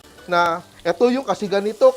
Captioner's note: sizzles